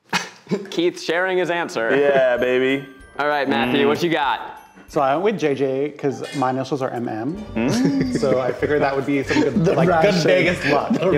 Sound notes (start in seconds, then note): 0.2 chuckling; 7.5 laughing